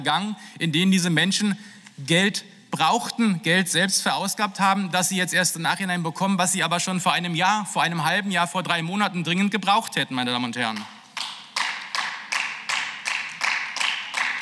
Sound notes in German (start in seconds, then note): 11.1 Beifall